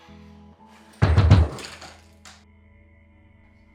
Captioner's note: door banging